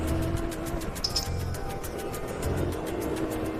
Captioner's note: flooring the Gas Again